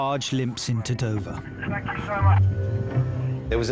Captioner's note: radio